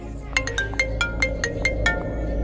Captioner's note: Phone ringing